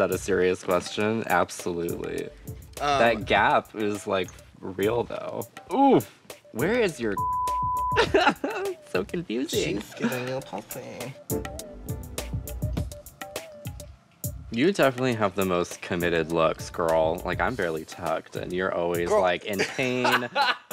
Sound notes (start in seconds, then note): 9.6 laughs